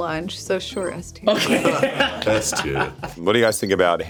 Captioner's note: laughs